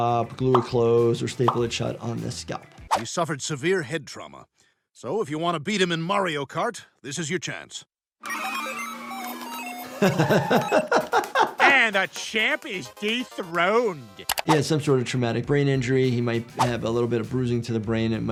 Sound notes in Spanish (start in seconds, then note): 8.2 videojuego con pitidos; 10.0 riendo